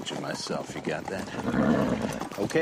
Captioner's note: snorts